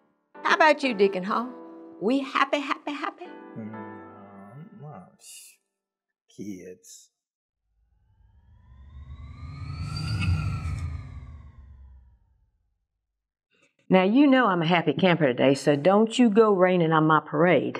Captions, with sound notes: How about you Deacon Hall? We happy, happy, happy? ( grumbling ) Kids. (swoosh) Now, you know I'm a happy camper today. So don't you go raining on my parade.